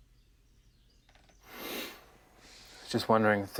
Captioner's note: Evan sniffs